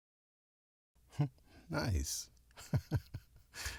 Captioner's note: chuckles